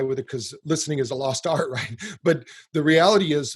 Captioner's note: chuckles